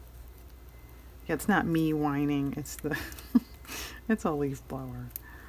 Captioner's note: laughs